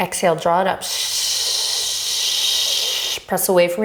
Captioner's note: shushing